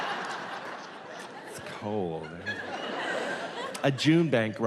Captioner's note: laughter